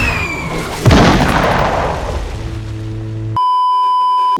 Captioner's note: Road Runner splat; beeeeeep